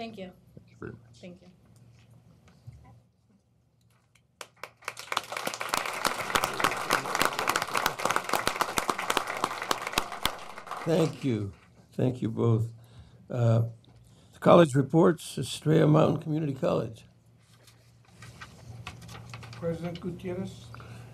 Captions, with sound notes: THANK YOU. THANK YOU. (AUDIENCE APPLAUDING.) THANK YOU. THANK YOU BOTH. COLLEGE REPORTS, ESTRELLA MOUNTAIN COMMUNITY COLLEGE.